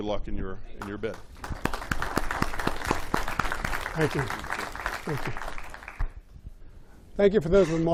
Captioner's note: applause